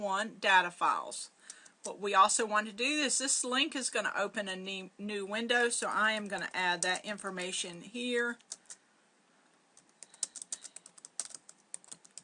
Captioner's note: typing sounds